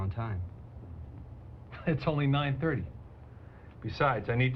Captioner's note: chuckles